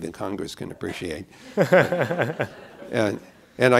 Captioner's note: laughter